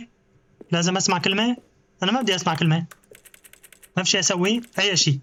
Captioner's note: typing